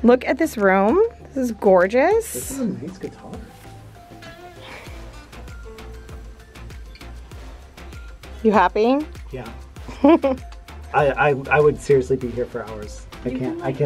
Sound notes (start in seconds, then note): 4.4 happy, rhythmic music; 9.8 giggles